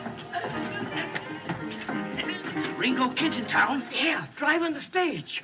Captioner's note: laughs; Old Mac Stammering